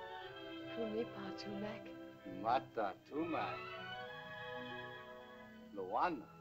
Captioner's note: speaking in caveman language